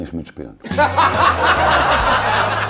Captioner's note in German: Gelächter